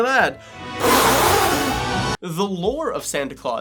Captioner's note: blowing